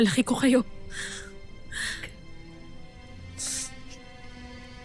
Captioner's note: sobbing